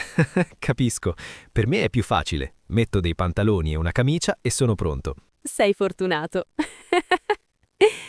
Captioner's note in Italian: risate